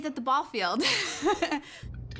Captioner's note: laughter